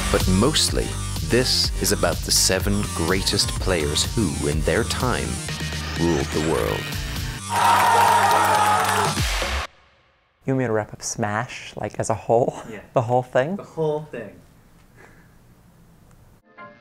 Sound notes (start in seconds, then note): 7.4 crowd cheering